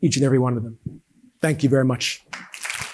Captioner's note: audience applauding